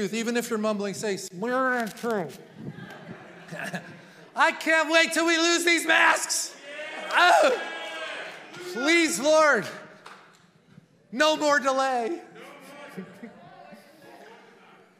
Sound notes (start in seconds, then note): 2.4 congregation laughing